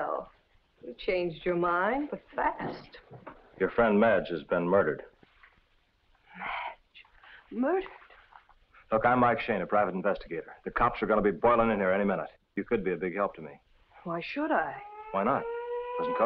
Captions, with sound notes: You changed your mind but fast. - Your friend Madge has been murdered. - Madge? Murdered? - Look, I'm Mike Shayne, a private investigator. The cops are going to be boiling in here any minute. You could be a big help to me. - Why should I? - Why not? (siren blaring nearby) Doesn't cost you anything.